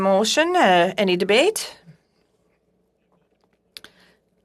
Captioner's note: speaking French